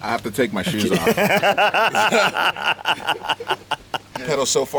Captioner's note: laughter